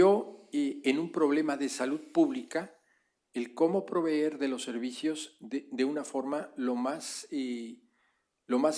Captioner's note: spanish; spanish